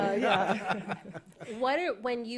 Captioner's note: laughter